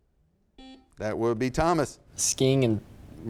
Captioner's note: buzzer beeps